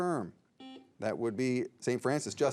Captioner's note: signal beeps